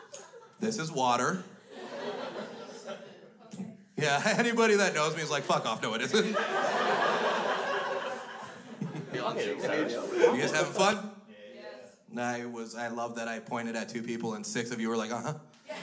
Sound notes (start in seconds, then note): 1.6 crowd laughs; 5.5 crowd laughs; 11.4 crowd